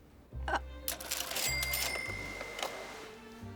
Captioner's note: cashier drawer rings